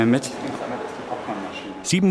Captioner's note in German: Leise Stimmen